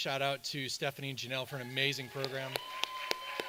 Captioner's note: audience cheers; claps